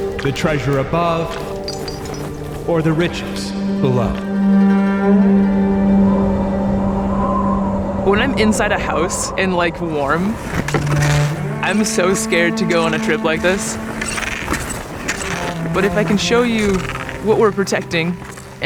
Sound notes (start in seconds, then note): 4.8 dissonant music; 4.8 wind whistling